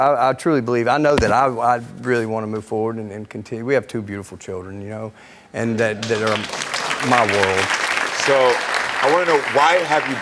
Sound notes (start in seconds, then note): 6.0 audience clapping